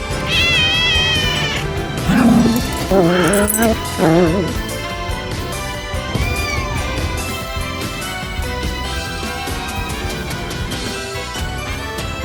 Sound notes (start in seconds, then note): 0.1 meows; 1.0 growls; 6.0 meows